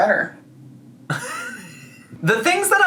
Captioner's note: laughs